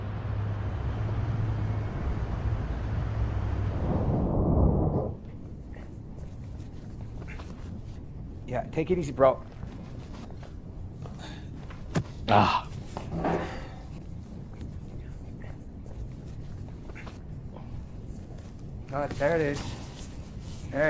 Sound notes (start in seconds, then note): 0.0 traffic faintly whizzing; 3.1 transition whooshing; 12.2 David sighing